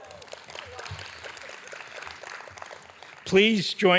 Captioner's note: audience applauding